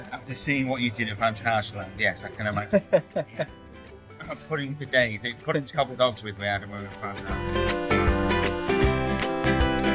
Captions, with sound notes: After seeing what you did at phantasialand, yes, I can imagine. (laughing) he had pudding for days, pudding to cobble dogs with we had at phantasialand